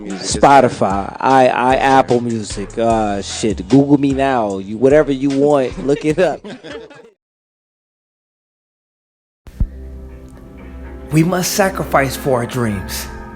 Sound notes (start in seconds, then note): 5.7 laughing